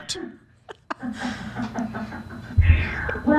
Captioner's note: laughs